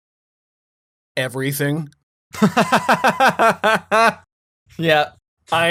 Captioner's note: laughs